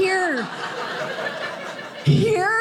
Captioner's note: audience laughing